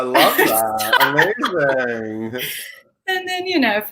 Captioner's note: laughs